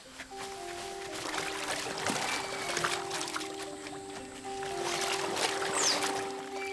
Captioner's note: gentle music; water sloshing